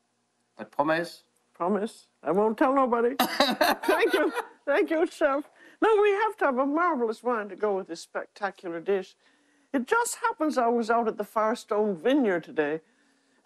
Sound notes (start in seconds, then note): 3.4 laughs